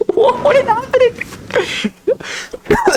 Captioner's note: laughs to myself